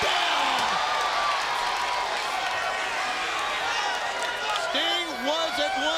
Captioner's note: applause